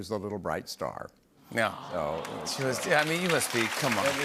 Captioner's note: audience "Awws"